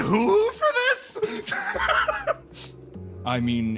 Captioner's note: laugh